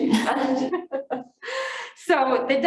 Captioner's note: group laughter